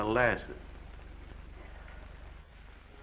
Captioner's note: Mattie sighs; gentle music